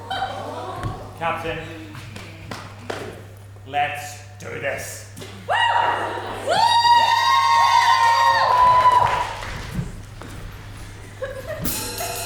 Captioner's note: audience awws